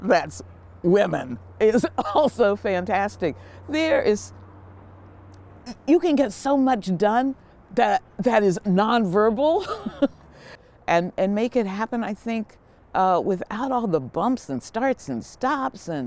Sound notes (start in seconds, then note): 9.6 laughing